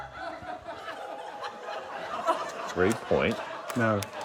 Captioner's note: laughter